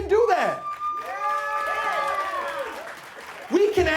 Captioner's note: audience cheering and applauding